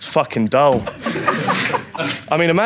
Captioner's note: audience laughs